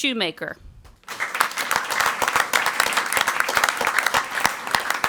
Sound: crowd clapping

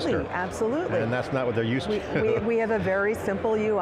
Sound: chuckles

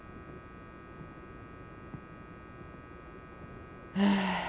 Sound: groan

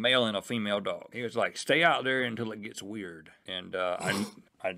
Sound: sniff

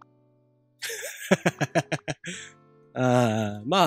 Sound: giggle

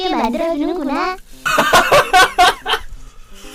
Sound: laugh to death

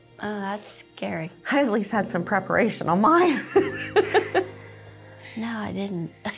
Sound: laughs

